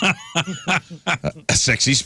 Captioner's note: laughing